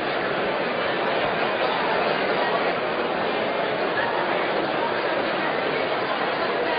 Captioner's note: crowd noise